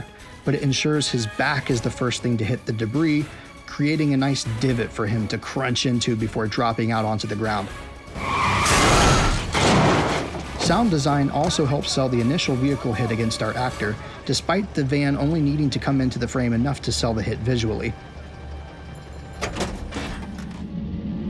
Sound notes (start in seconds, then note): 7.8 car screeching; 9.9 car crashing; 18.1 suspenseful music